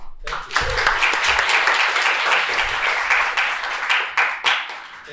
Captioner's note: applause